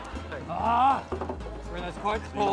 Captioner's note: groans